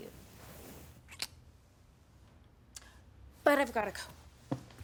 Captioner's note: lips smacking